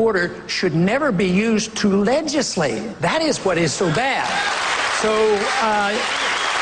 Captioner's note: applause